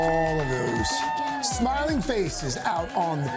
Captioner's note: cheers and applause